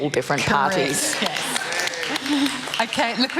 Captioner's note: applause